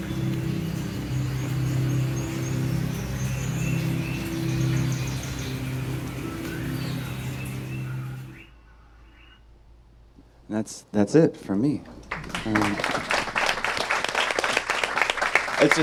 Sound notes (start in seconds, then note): 1.5 birds chirping; 12.0 audience applause